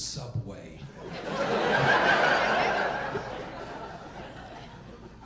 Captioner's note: audience laughing